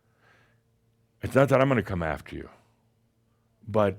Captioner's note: none